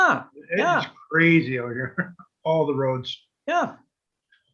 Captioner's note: giggles